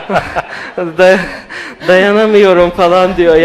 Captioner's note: laughs